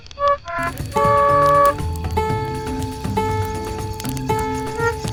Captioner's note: string boinging